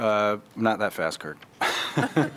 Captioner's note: laughter